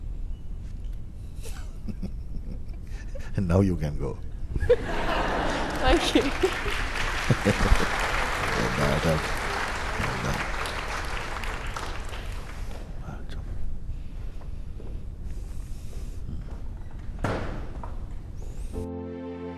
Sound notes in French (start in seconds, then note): 1.4 Mooji et la personne rient; 4.6 rire; 7.3 applaudissement